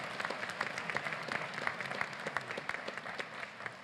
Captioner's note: applause